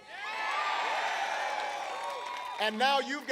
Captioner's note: applause